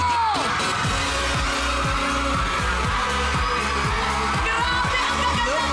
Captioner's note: cheering; thrilling music continues